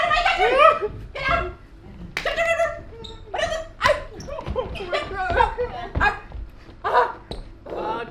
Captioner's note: weird chicken noises